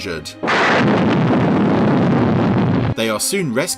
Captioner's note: explosion roars